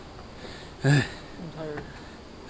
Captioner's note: breathing heavily